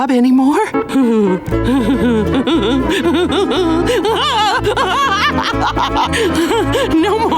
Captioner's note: laughing